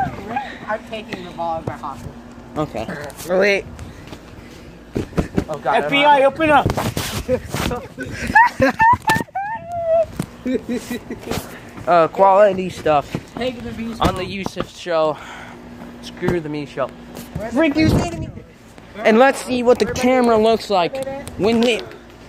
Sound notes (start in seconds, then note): 5.0 knocks on tent; 8.3 starts scream-crying